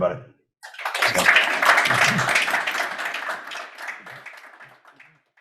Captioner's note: audience applauds